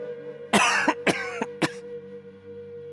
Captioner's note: cough